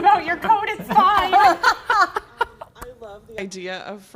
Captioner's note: laughs